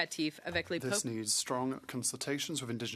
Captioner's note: speaking French